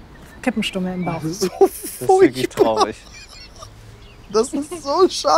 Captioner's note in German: lacht verzweifelt